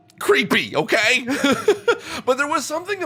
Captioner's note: laugh